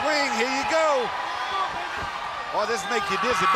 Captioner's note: crowd cheering